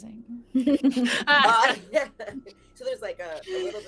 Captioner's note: laughing